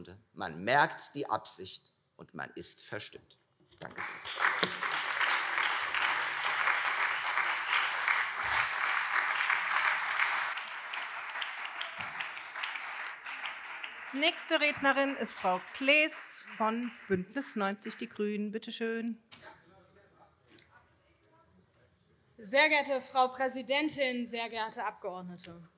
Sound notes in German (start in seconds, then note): 6.1 Beifall Freie Demokraten, CDU, SPD und BÜNDNIS 90/DIE GRÜNEN